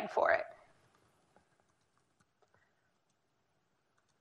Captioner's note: typing